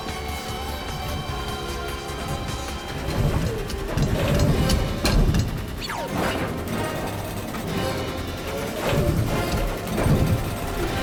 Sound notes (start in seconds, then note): 2.2 gunshot